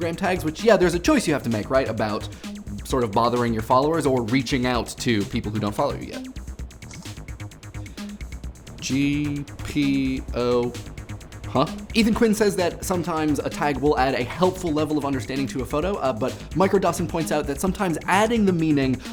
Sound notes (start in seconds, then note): 6.8 camera shutter